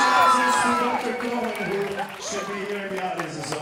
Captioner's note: audience cheering and applauding; cheering drowns out